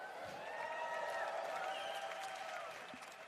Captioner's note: applause